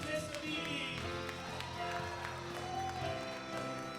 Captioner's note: applause